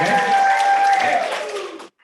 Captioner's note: applause